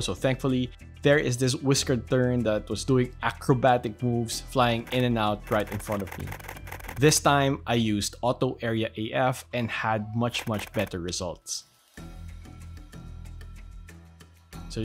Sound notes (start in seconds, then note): 5.5 camera shutters; 12.1 soft music